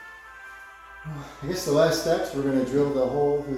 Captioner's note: sighs